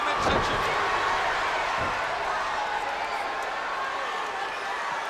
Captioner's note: spectators cheering